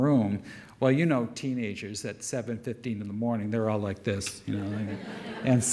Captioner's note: audience laugher